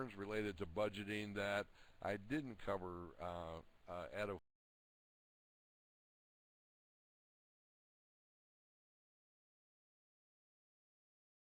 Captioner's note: audio drops